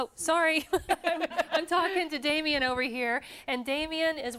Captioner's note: �laughing�